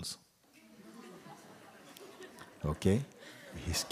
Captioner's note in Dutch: gelach